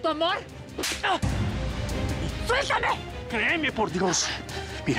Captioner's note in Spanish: ruido de bofetada